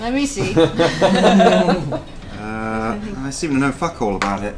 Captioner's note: all laugh